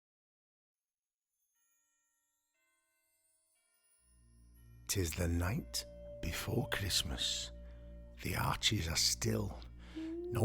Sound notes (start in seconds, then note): 1.7 bells ringing